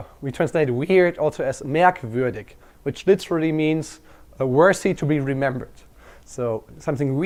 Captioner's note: german